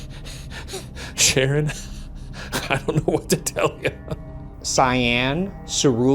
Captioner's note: laughs